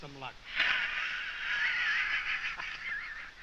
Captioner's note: guffawing